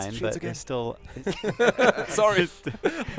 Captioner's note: laughter